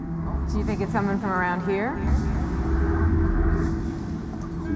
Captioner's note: echoes